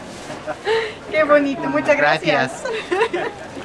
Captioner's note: laughter